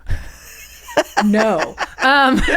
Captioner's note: laughing